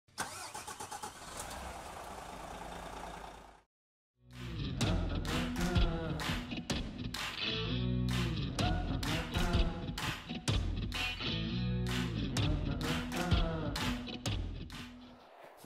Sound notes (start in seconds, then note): 0.1 ignition starter engaging; 4.9 lively music